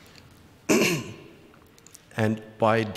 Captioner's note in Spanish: Presentador se aclara la garganta